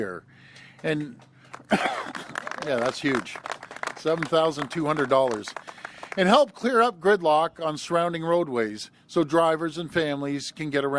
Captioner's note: applause